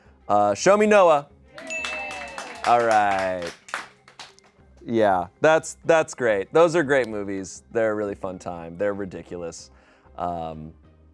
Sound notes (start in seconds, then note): 1.5 audience cheering; 1.6 bell dings